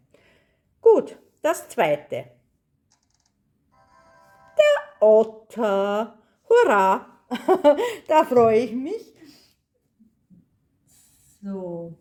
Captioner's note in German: gelächter